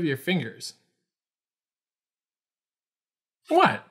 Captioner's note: pause